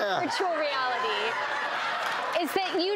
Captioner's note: laughing